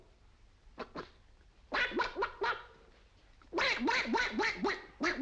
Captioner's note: makes duck noises